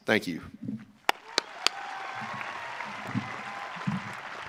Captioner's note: audience cheering